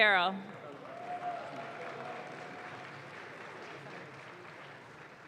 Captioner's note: audience claps